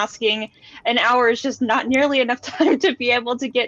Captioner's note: laughs